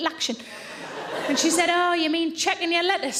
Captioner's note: audience laughing